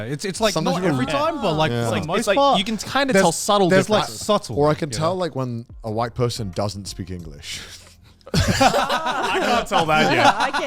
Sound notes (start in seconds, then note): 3.6 hosts laugh